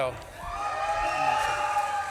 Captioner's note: audience claps and cheers